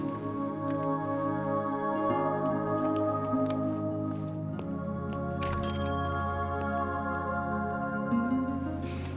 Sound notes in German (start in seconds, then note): 5.4 Glocke läutet